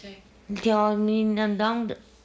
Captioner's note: speaking Taiwanese